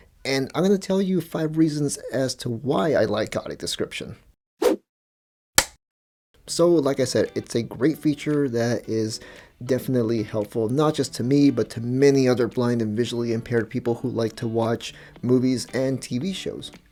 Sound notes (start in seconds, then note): 5.6 whoosh, film clapper sound